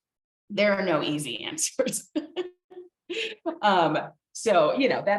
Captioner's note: laughing